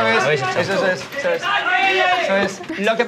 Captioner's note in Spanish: gritan